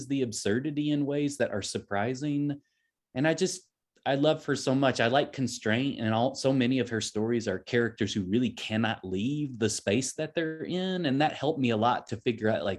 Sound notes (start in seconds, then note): none